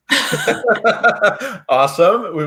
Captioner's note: laugh